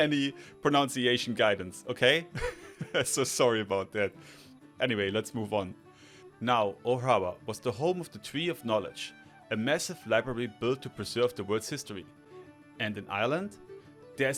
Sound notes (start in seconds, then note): 2.4 laughs